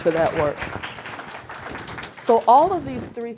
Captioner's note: audience clapping